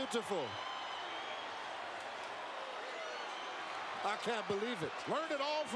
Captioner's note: applause